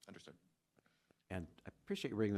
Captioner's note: none